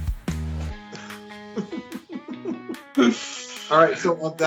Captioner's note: laughs